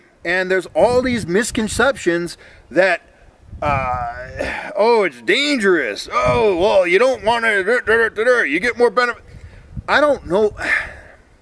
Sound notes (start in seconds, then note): 3.8 sarcastic; 10.6 sigh